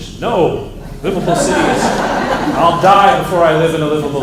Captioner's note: laughter